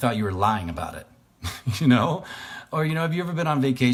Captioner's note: laughs